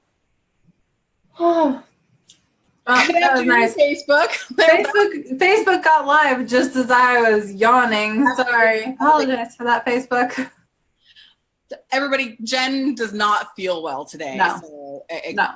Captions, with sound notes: - (yawns) - Good afternoon, Facebook. - (laughs) Facebook got live just as I was yawning. Sorry, I apologize for that Facebook. - Everybody, Jen does not feel well today. - No.